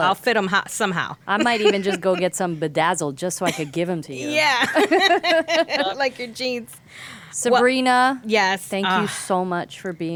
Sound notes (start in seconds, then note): 4.6 laughing